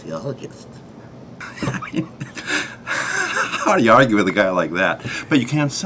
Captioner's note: laughing